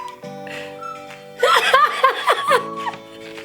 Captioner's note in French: rit bruyamment